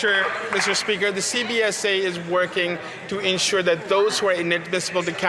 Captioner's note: some Applause